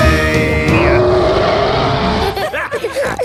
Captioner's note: roaring; laughter; snorting